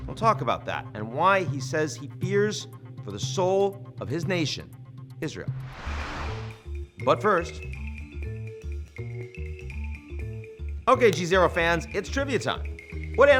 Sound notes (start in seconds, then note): 5.6 air whooshing; 6.5 gentle upbeat music